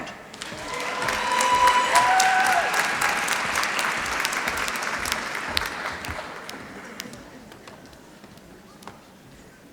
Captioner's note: applause